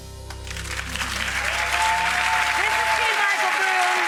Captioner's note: clapping